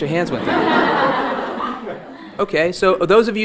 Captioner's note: audience laughing